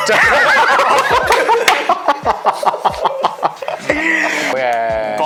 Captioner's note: laughter